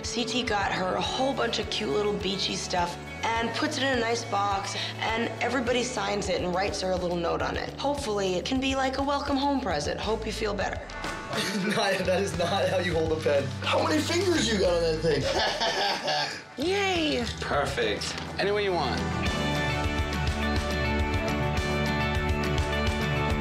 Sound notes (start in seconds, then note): 15.1 laughing; 20.6 upbeat music